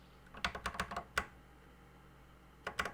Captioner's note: typing on a C64 keyboard